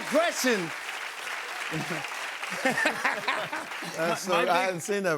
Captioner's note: cheers and applause